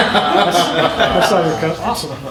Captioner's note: laughter